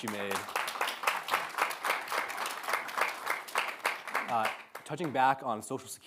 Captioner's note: audience applauding